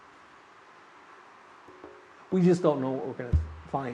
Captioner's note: wind howling